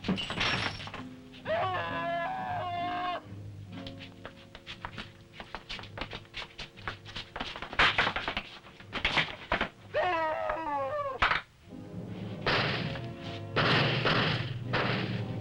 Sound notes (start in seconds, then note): 0.0 bottles shattering; 1.4 Bruno screaming; 7.6 table crashes; 9.9 Bruno screaming; 13.5 guns firing